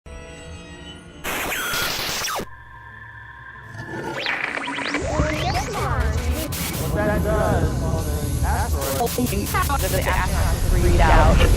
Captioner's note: sound Effects